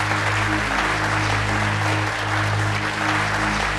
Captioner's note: applause